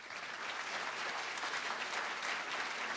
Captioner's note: applause